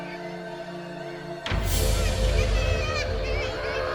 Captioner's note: chick cawing